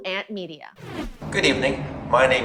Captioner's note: transition sound